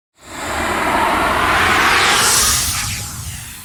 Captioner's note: air whooshing